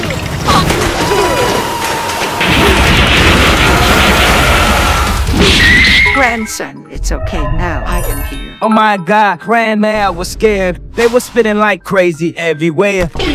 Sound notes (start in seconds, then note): 0.9 screaming